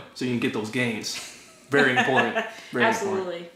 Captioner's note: laughter